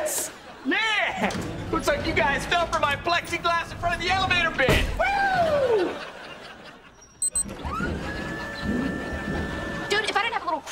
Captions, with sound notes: Man, looks like you guys fell for my plexiglass in front the elevator bit. Whew! [beeping] Dude, if I didn't have a little crush on you,